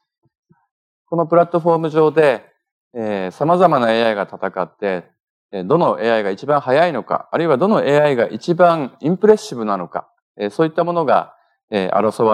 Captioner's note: speaking japanese